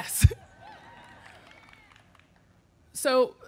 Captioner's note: audience cheering; laughs